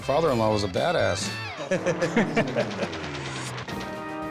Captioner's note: both laugh